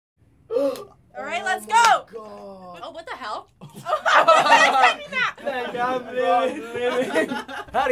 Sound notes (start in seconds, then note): 0.5 gasping; 3.6 laughter